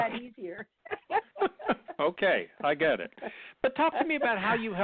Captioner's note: laughing